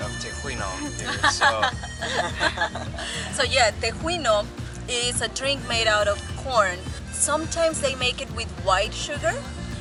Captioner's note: laughing